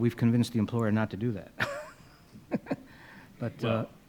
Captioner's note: laughs